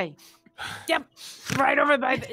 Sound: all laugh

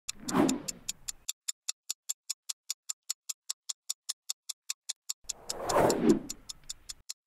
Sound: ticking clock

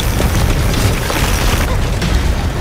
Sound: wheels rattling

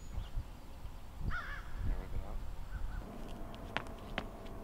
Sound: birds chirping

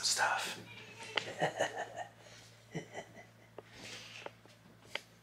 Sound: silently laughs

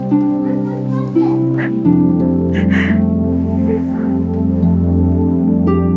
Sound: crying

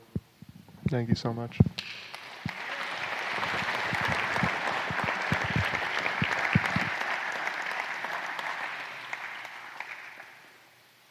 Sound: applause

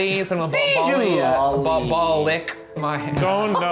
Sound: laughs

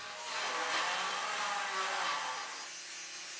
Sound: sounds of power tools against metal

